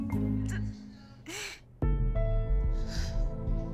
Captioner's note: crying